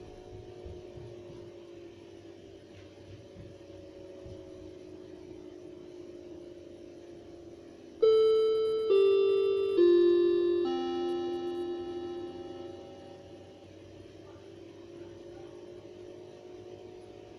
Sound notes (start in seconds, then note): 8.0 bell clock starts ringing; 10.6 bell clock ends ringing